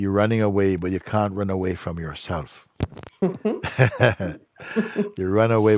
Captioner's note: Lachen